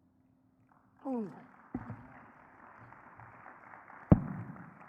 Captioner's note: audience clapping